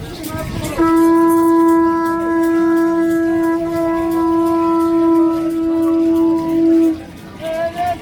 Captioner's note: horn Sound